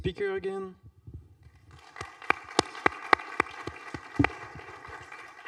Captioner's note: applause